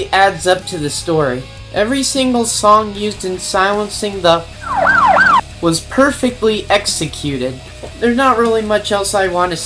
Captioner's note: cop siren